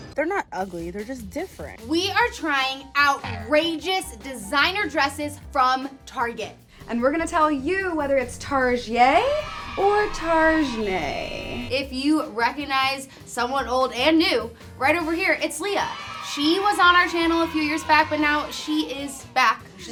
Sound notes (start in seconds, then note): 15.7 crowd cheers